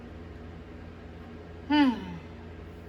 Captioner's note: sighs